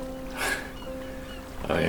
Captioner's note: Dave laughs